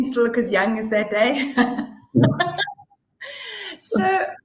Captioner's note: laughter